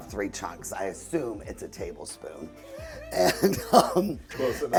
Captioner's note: laughs